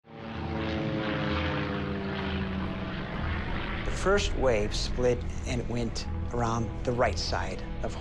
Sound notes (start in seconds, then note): 0.0 engine whirring